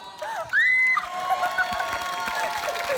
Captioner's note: shrieks